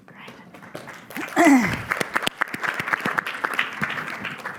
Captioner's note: applause